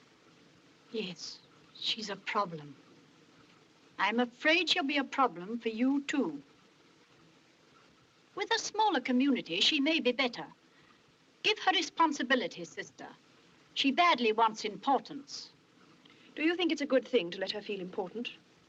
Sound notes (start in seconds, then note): none